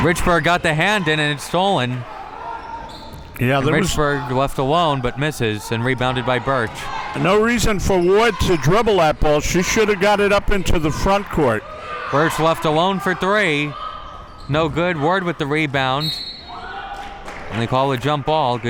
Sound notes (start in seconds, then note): 16.0 whistle blows